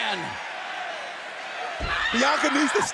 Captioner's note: screaming